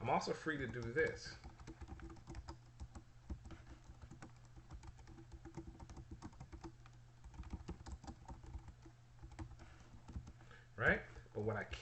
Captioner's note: typing sounds